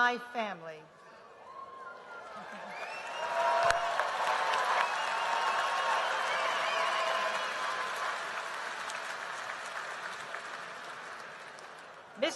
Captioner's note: applause